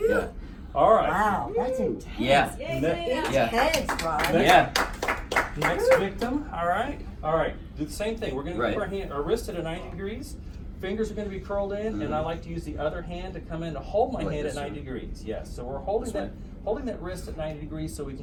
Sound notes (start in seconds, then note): 4.7 clapping